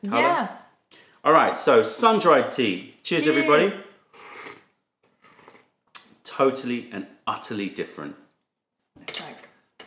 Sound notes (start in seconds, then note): 4.1 sips tea